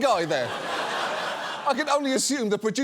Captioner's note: audience laughs